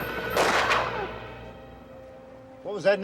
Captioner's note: gunshot blasting